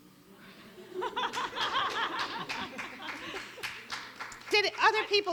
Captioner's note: audience applauds